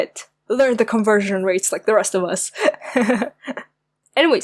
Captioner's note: giggle